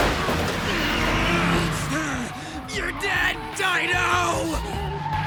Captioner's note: growls